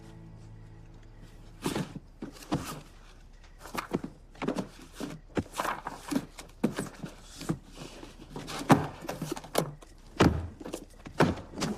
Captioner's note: scuffling